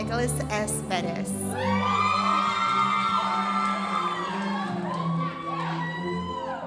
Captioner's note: audience cheering and applauding